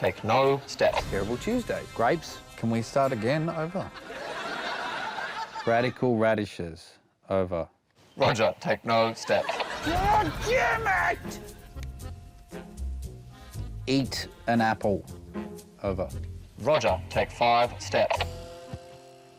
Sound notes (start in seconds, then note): 4.9 laughter; 9.6 yells